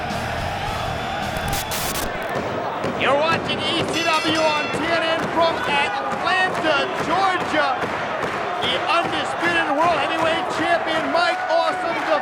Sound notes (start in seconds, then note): 1.4 static hissing